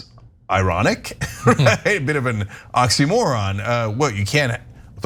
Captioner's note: laugh